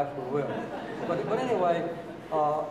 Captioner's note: audience laughing